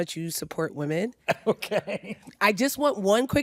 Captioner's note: chuckles